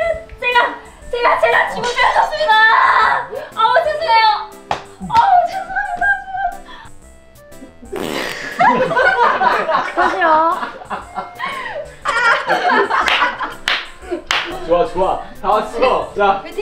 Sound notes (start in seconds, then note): 5.8 tap Tap; 11.8 laughing out loud